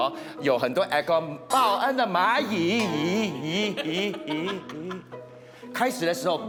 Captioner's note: echoes